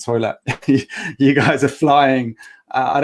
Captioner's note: chuckling